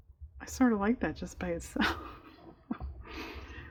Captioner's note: laughs